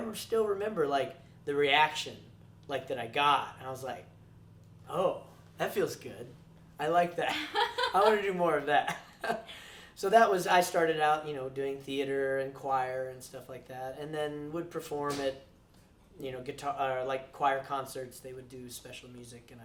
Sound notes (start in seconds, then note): 7.2 laughs